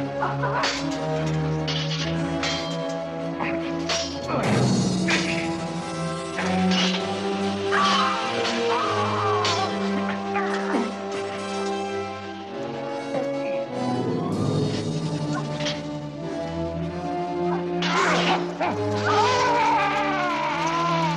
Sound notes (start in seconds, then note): 0.6 clinking; 8.4 tense orchestral music; 18.8 yelling